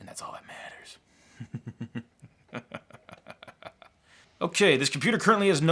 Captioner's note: chuckles ominously